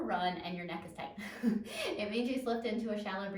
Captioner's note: laughs